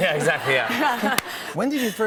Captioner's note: laughter